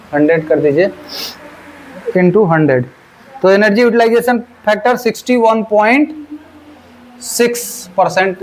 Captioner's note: nasal sound